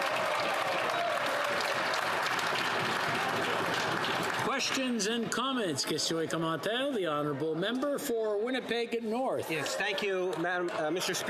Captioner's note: some applause